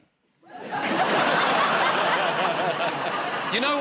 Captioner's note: laughter